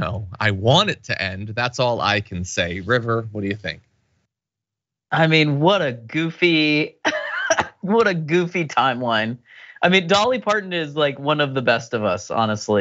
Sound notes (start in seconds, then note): 7.0 laugh